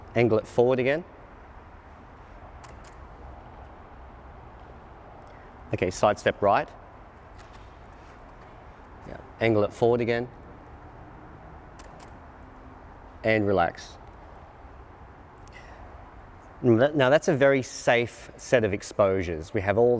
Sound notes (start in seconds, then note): 2.6 clicking; 11.8 clicking